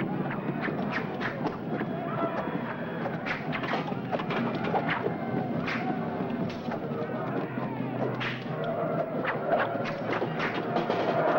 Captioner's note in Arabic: زئير الفيلة; سهام تنطلق; موسيقى درامية; زئير الفيلة; سهام تنطلق